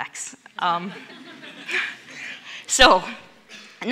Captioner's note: audience laughs